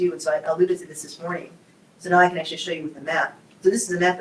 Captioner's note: none